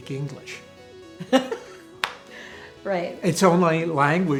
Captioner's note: laughs